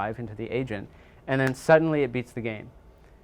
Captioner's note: fingers clicking